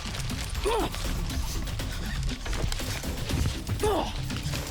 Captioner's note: officers panting